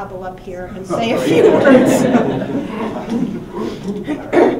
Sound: laughing

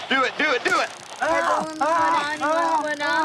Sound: screaming in pain

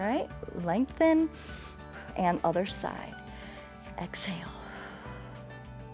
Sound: exhales

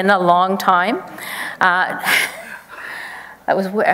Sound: chuckles

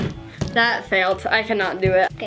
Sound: bottle landing

